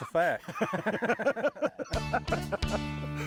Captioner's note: both laughing; upbeat music